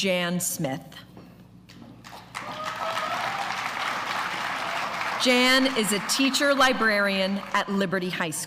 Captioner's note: applause